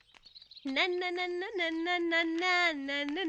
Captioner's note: humming